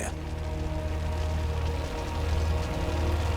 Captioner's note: crackling fire